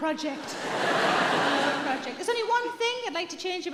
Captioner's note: audience laughing